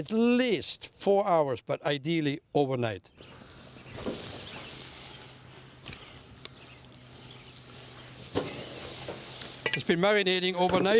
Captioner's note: sizzling